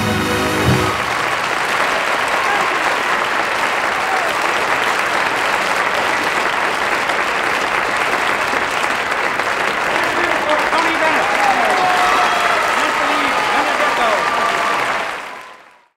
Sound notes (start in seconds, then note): 0.0 triumphant music; 0.3 audience applauding; 4.2 audience applauding; 11.5 audience cheering